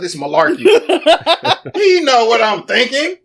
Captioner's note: laughing